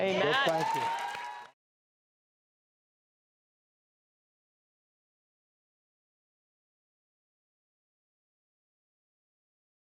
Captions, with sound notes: Amen Well thank you (audience cheering)